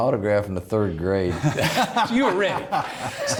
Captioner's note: laughing